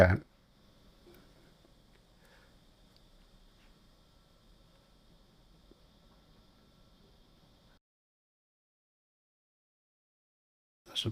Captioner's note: silence